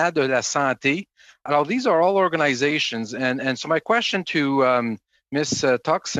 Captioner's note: speaking French